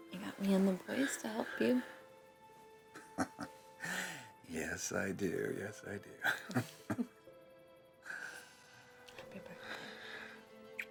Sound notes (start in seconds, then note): 3.0 chuckling